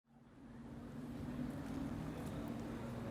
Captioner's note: street sounds